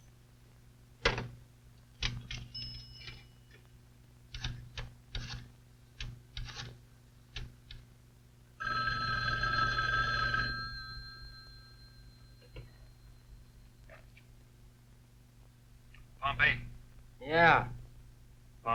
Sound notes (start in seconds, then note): 0.1 phone unhangs; 1.7 telephone dialing; 8.6 telephone ringing